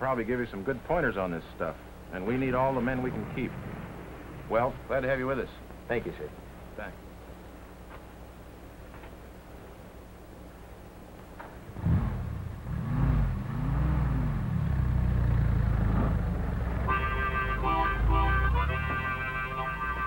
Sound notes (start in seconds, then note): 11.6 truck engine starting; 16.8 harmonica playing